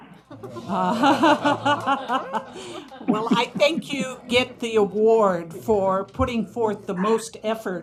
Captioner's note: laughter